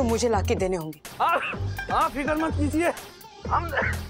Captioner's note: coughing